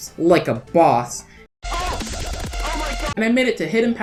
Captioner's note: MLG sfx